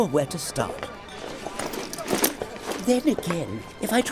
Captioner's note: rustling inside a bag with metal parts